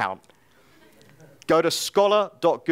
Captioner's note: audience laughing